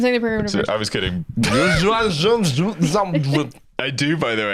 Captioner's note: speaking in reverse